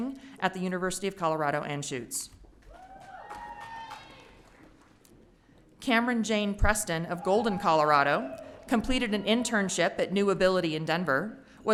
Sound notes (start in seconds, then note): 2.7 audience cheering